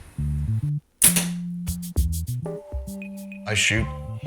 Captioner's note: arrow snaps